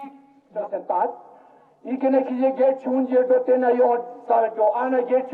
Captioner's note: speaking foreign language